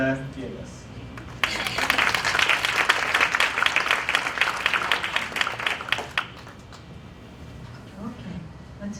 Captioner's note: applause